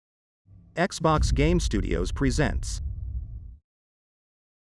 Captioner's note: dramatic sound